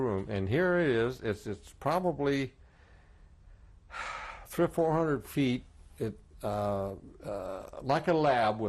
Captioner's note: sighs